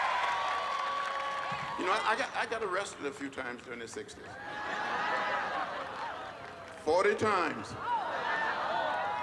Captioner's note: applause